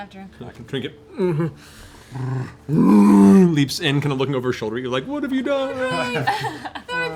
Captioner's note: roaring